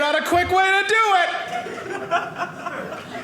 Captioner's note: audience laughing